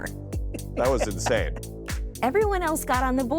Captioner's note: laughing